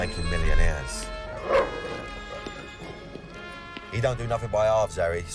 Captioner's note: dog barks